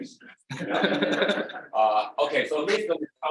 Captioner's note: group laughing